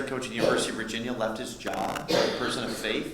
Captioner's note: coughing